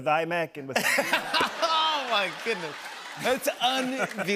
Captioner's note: laughter